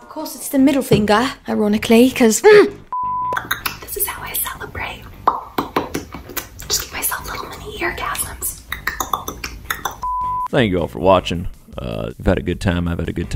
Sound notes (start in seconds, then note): 6.0 popping; 8.6 popping